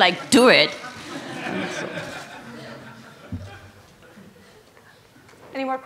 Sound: laughter

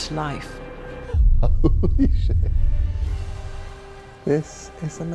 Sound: Neil chuckles

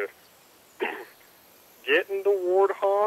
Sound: ahem

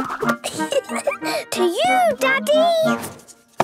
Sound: giggling

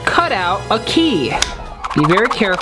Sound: fast movement sound effect

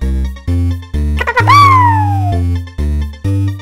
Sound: cute dino noises

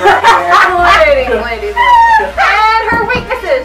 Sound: laughter

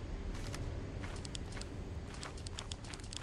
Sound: pew pew

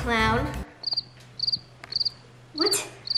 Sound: birds chirping

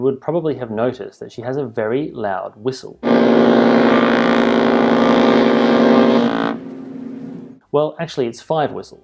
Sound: whistle blast

